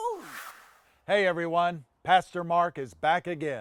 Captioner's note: air swooshing